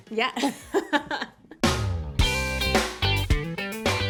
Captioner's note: laughs